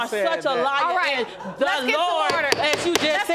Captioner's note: gavel pounding